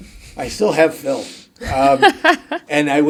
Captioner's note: laughing